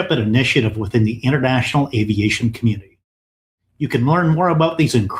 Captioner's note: none